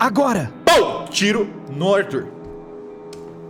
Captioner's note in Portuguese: pow